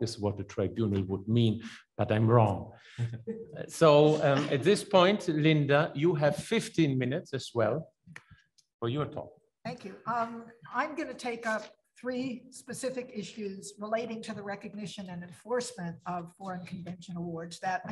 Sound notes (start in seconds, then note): 3.0 laughs; 3.8 attendee laughs